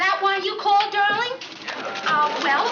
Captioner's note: on phone